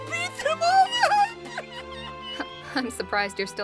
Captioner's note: pathetic crying